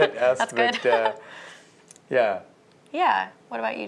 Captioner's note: laughter